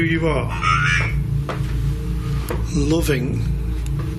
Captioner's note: device vocalising